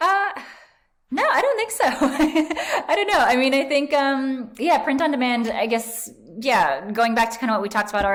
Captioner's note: laughs